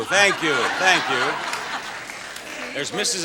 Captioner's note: audience laughs